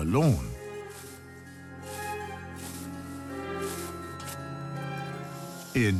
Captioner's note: mowing grass